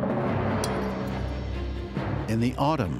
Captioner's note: a spoon clinks against a plate